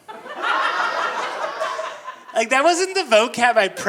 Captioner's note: audience laughing